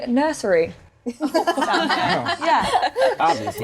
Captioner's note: laughing